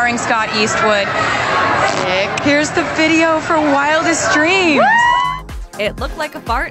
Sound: fart noise

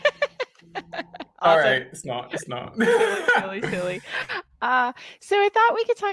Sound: laughing

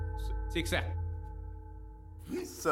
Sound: Malay Language

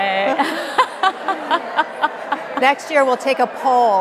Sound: laughing; audience laughing

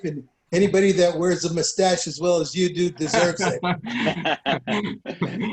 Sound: laughter

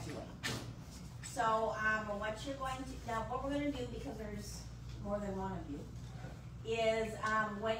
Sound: stammers

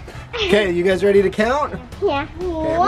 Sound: laughing

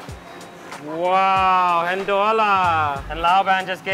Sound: speaking in foreign language

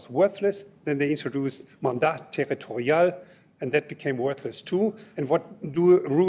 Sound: french

